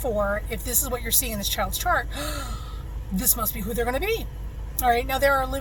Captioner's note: gasp!